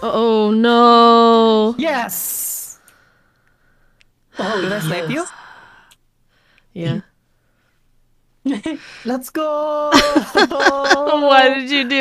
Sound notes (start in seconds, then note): 4.3 sigh; 10.0 laughs